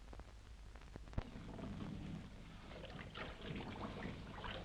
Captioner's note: water sloshing